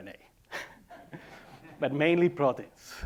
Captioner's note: laughing